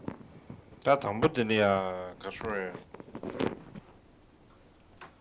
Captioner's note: non-english speech